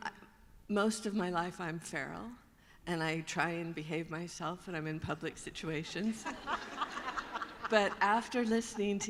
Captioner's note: laughter